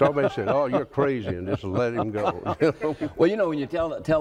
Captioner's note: laughs